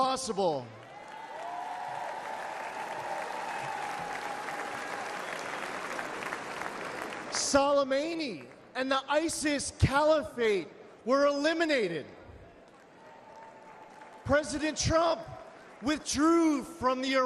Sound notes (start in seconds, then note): 4.0 applause; 4.7 cheering